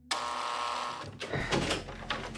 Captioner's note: buzzer; door opening; tense music